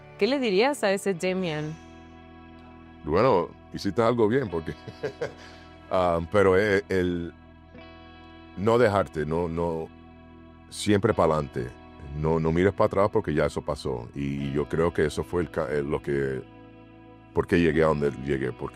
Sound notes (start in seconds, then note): 4.7 laugh